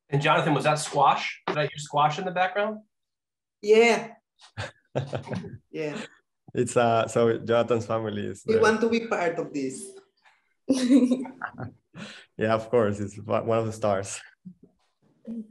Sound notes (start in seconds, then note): 4.5 laughing; 10.8 laughs